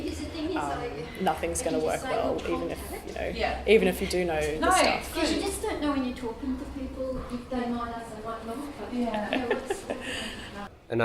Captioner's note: laughs